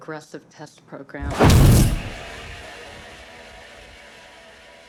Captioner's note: exploding